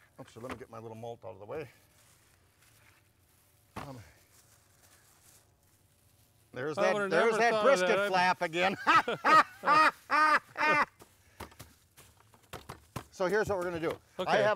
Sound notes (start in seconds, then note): 3.7 light thudding; 8.6 laughing